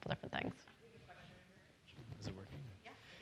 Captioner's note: faintly speaking